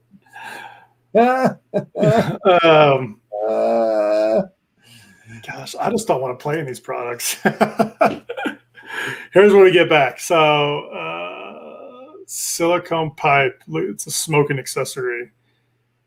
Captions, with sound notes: - (laughing) - Gosh. I just don't want to play in these products. Here's what we get back. So, silicone pipe, looks like it's a smoking accessory.